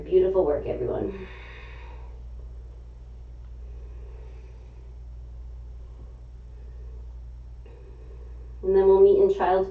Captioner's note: exhaling; inhaling